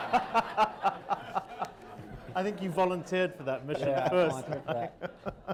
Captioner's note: laughter